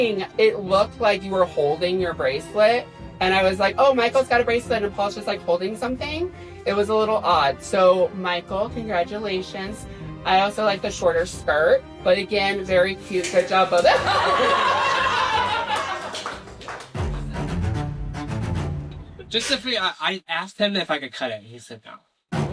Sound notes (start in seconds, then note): 13.2 laughing